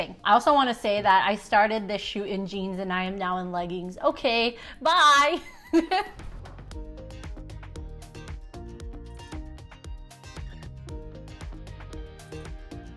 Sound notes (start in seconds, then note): 5.9 laughs; 6.1 upbeat music